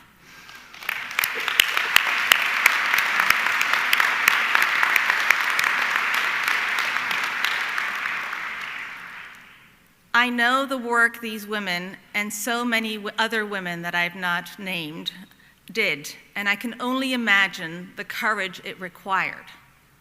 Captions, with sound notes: (audience clapping) I know the work these women and so many other women that I have not named did and I can only imagine the courage it required,